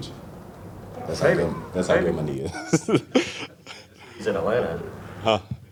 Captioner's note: laughter